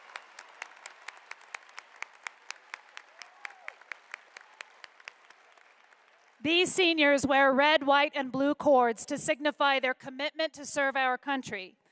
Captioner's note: applause